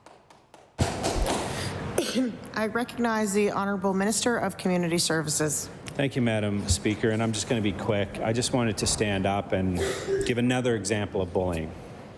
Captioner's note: applause